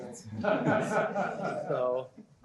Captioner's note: laughter